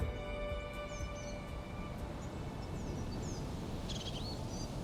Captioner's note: birds chirping